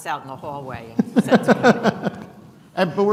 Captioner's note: laughing